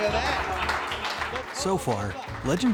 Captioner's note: laughter